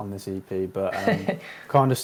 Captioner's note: laughter